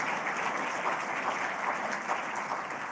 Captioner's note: applause